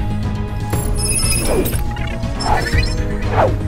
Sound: computer sounds

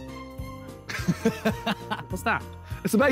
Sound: laughs

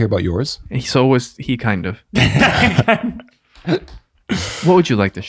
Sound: fathers laughing

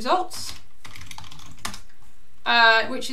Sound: keyboard clicking

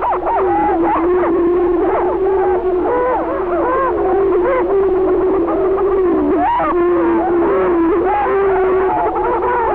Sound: prairie chicken calling and booming continues

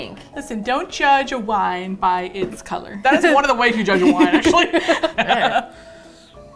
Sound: both laugh

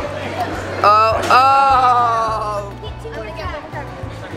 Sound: yells in dismay

